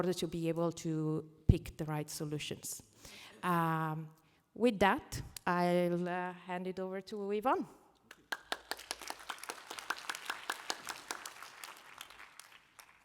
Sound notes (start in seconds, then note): 8.1 applause